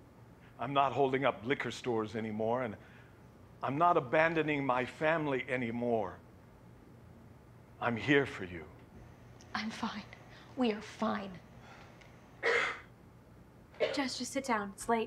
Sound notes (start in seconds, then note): 12.4 loud coughing